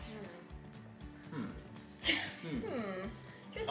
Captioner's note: chuckles